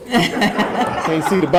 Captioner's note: audience laughing